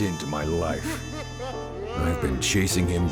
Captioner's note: Echos of the Bozo laughing